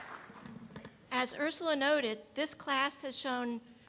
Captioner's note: voiceover